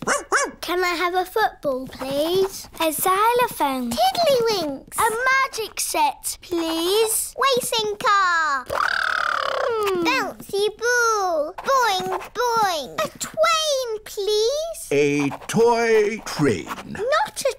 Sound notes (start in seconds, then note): 0.0 barks; 8.7 imitates engine revving